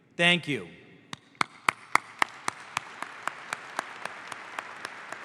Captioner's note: audience applauds